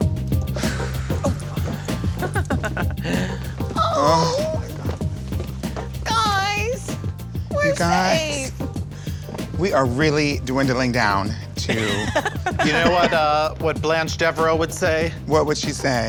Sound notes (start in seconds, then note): 0.5 laughs